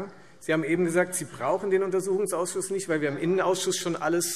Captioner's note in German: none